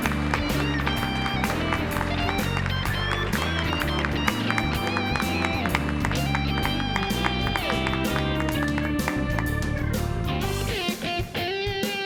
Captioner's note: applause